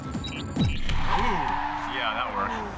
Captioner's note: car screeches